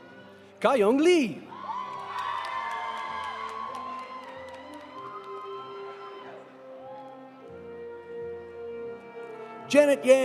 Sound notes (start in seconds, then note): 1.6 audience cheering; 1.6 audience applauding